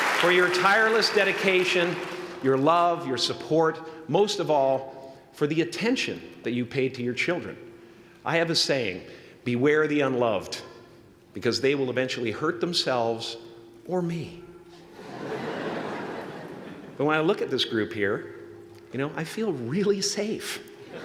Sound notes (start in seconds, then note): 14.9 laughter